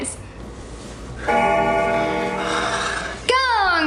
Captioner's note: bell ringing